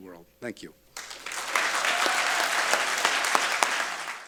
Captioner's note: applause